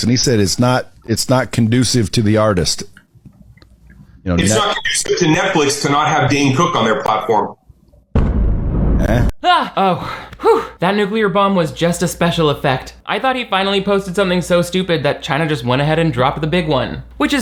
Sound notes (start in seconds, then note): 8.1 bomb exploding